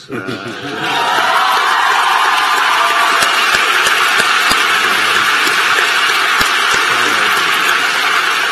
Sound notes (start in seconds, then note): 4.7 applause